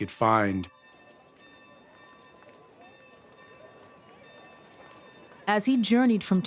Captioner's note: indistinct chatter, bell ringing